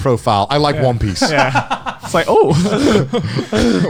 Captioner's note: laughs